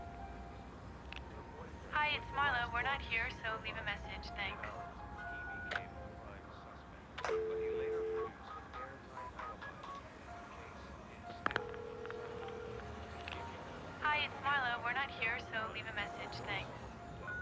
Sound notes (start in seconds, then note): 7.1 dialing; 11.2 phone ringing